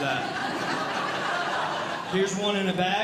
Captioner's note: audience Laughing